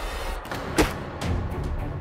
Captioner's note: thud on the ground